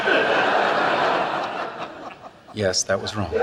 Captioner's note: audience laughs